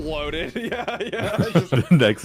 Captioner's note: giggling